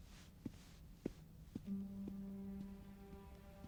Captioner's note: foreboding music; footsteps tapping